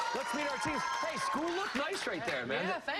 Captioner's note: cheers and applause